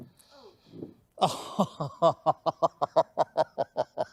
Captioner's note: laughing